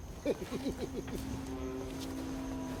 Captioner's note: chuckles